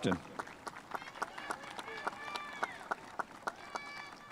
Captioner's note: spectators applauding